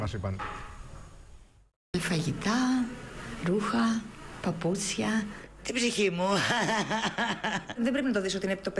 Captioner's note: laughter